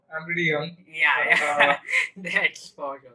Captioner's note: laughing